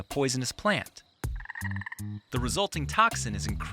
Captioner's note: light music; animal croaking